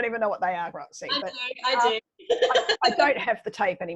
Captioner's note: laughs